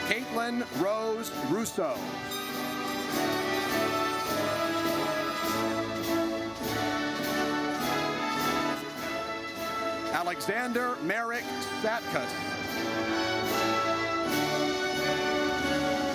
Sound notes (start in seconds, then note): 3.1 horn blares; 12.9 triumphant music